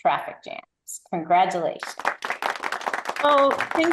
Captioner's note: applause